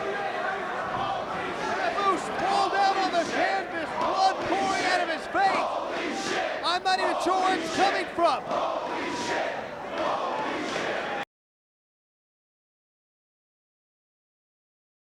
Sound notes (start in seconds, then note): 5.6 spectators chanting "Holy Shit!"; 8.5 spectators chanting "Holy shit!"